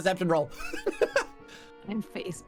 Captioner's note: laughter